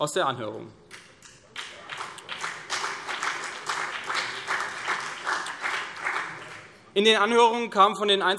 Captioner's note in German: Beifall CDU und BÜNDNIS 90/DIE GRÜNEN